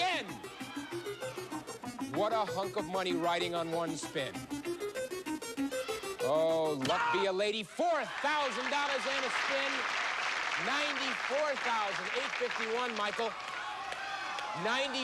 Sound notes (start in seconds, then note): 7.7 cheers and applause